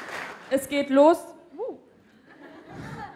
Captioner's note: surprised tone; laugh